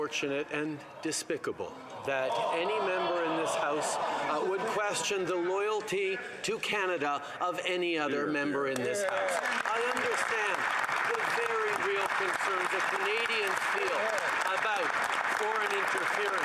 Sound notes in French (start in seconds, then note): 1.5 voix de l'interprète